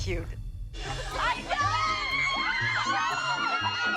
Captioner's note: all screaming